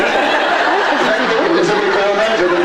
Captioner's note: laughs